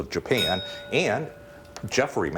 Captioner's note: bell rings